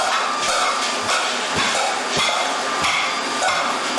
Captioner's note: floor thumps; clanging, whirring continues